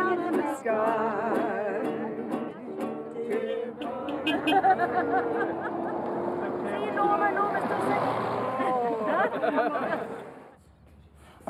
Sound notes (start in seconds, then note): 3.5 horn beeps; 4.2 laughter; 8.5 laughter